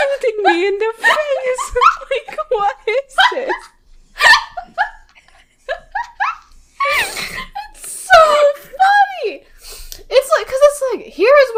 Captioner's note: both laughing